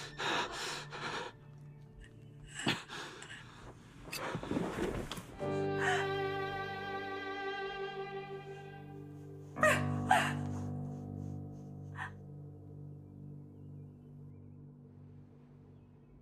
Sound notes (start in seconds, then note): 5.8 woman gasps; 9.6 woman sobs